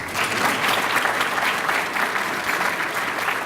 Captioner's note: applause